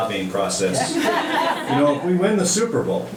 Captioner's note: audience laughing